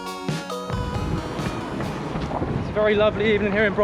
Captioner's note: waves crash